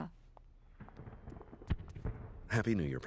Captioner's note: fireworks crackle